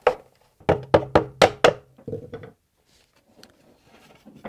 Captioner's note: mallet taps